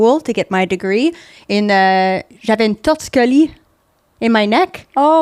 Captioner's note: in french